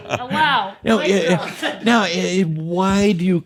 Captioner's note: laughter